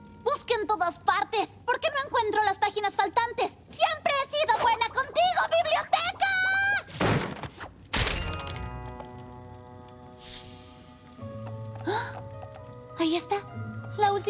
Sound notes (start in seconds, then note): 6.9 thud; 7.8 clatter; 11.9 gasp